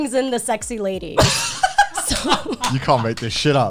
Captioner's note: guys laughing